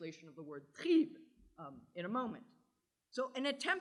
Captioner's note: german